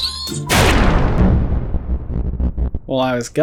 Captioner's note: gauntlets boom